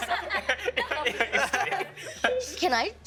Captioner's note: all laughing